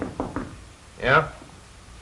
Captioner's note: knocking on door